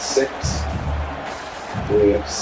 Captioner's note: crowd Noises